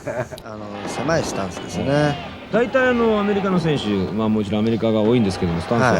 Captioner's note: speaking in foreign language